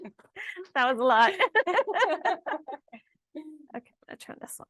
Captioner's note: laughs